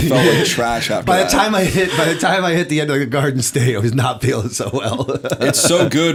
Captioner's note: laughter